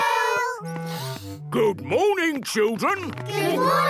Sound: sniffs

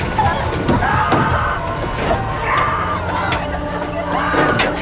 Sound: passenger yelling

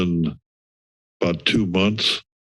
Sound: silence

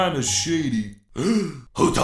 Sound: gasp

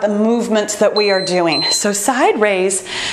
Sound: timer beeps

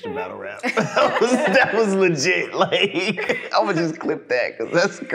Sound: laughing

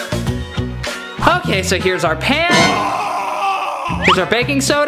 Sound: screaming

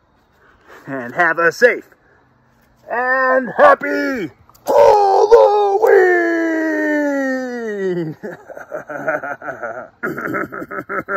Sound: laughing

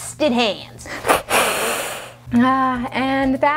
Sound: hisses

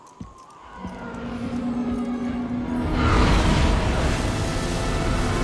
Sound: ship engines roar

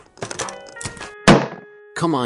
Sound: angry slam

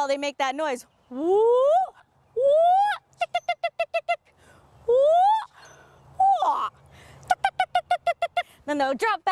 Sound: imitates a loud whooping and clucking Attwater's prairie chicken call

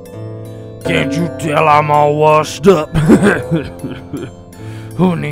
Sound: chuckling

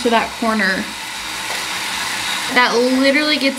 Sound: cleaning brush continues whirring

